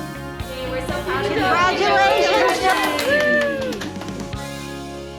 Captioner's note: applauding; bright music